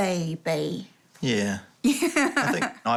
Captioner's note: chuckles